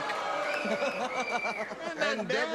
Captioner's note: laughter